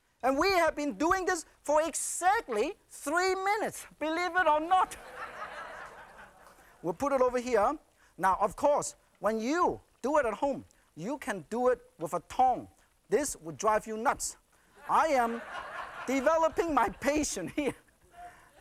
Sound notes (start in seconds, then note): 4.8 laughter